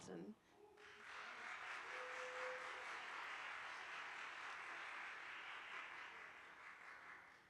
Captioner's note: attendees applauding